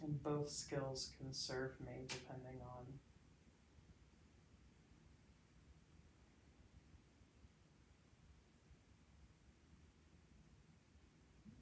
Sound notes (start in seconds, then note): none